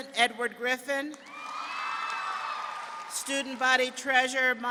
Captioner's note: audience clapping and cheering